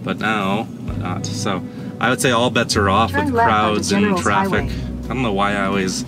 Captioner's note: Google speaks over